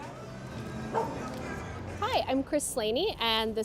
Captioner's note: dog barks